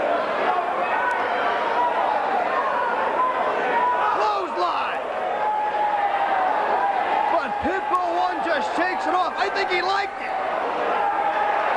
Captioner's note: crowd chatter